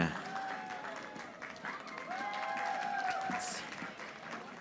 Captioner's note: audience applauding